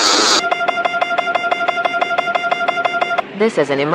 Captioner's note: alarm